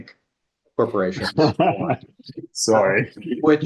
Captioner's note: laughing